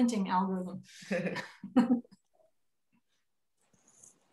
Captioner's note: panel chuckles